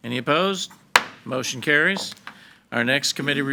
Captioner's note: gavel bangs